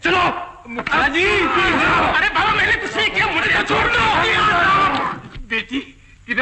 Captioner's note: Shouts in the background